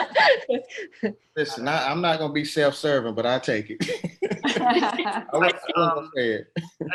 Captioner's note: laughter